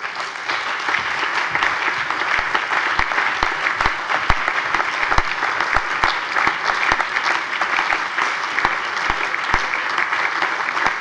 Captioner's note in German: Anhaltender allgemeiner Beifall